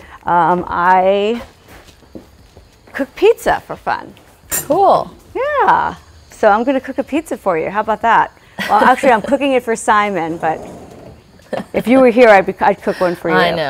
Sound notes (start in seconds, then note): 8.5 laughs